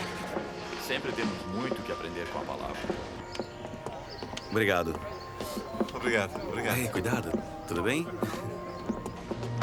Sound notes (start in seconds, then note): 3.1 background chatter